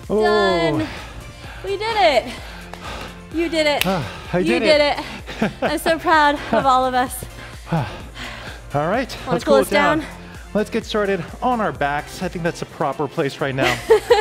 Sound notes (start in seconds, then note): 3.7 claps; 7.1 breathes heavily